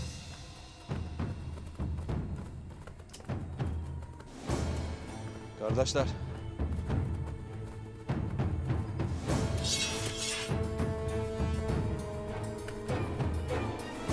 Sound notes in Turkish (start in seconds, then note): 0.1 Müzik - Gerilim; 9.5 Kılıç çekme sesleri